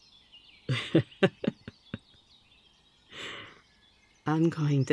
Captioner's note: laugh